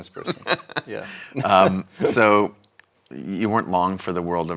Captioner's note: laughs